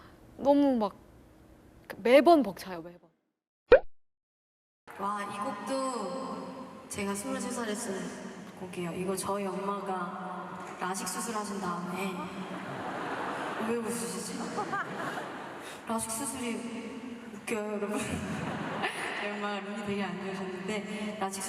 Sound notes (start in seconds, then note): 17.9 laugh